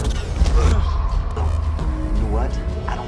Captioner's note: punch thuds